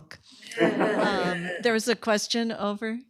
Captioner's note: laughter